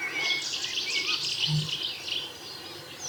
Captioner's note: birds chirping